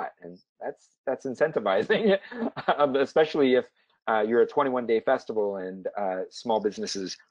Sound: laugh

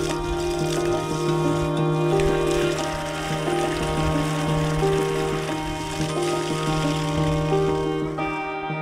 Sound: water splashing

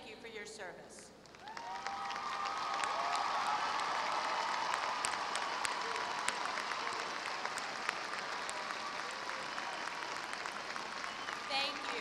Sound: applause

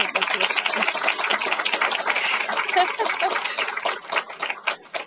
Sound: applause

